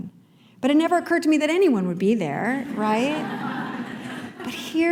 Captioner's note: laughter